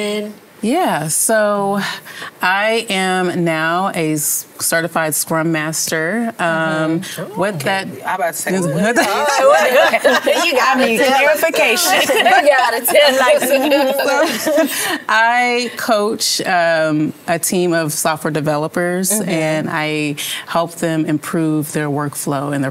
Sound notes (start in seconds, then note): 8.6 laughter; 8.8 overlapping chatter